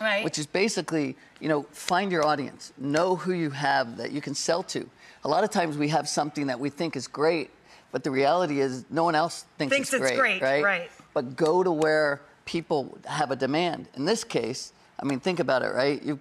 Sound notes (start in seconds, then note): none